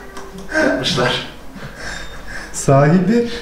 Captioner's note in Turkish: Gülüşmeler